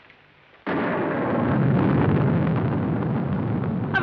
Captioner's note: thunder